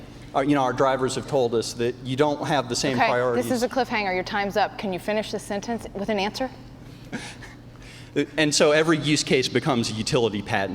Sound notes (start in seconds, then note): 5.4 chuckles